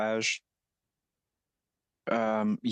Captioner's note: speaking French